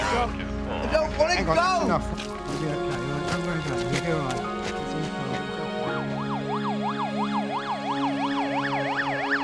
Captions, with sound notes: I don't want to go! (siren wailing)